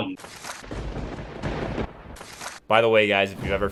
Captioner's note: thunder rumbling